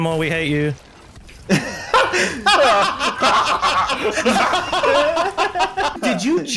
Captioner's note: friends laughing